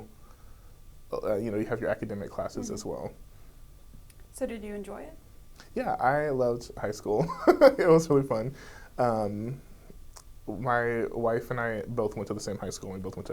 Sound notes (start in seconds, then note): 7.3 laughs